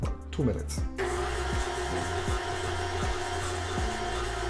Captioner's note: blender churning